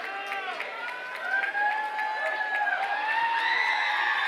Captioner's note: cheers, applause